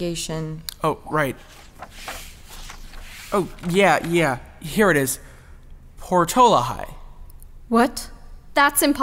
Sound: more paper rustling

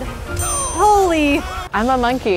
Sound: affirmative ding

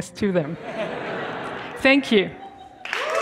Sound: students laughing

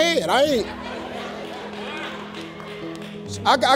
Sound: laughing

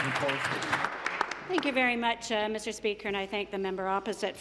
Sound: applause

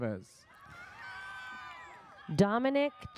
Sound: audience cheers

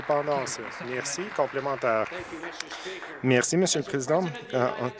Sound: some Applause

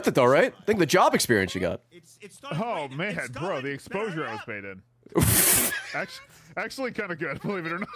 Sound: laughs

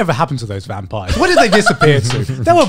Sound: laughing

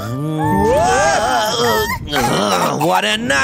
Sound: coughs

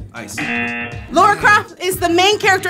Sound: wrong buzzer rings

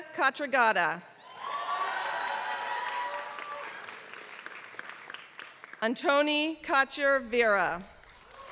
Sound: applause; applause

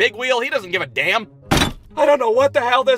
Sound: thud!

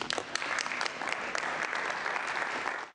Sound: applause

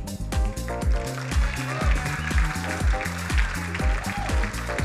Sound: crowd applauding; bright music

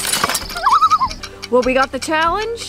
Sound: loon call

